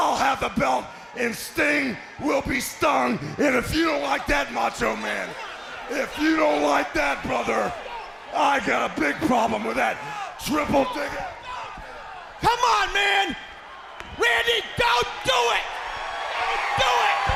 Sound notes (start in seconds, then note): 12.2 crowd chatter; 15.9 crowd cheering